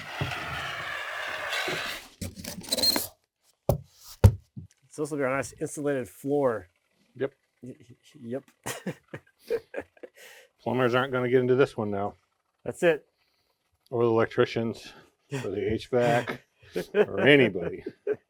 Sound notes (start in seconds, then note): 1.4 foam spraying; 4.0 foam squeaking; 8.6 speaker laughing